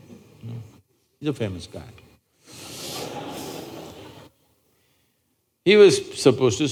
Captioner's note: laughter